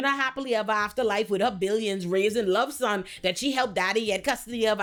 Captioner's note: none